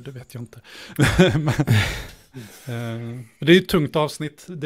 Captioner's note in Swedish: Skratt